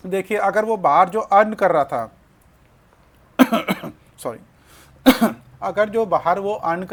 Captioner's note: sound of clearing throat